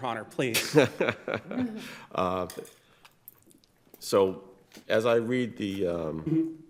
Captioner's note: chuckling